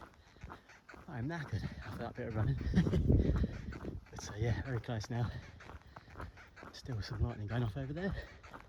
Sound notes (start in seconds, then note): 3.4 laughs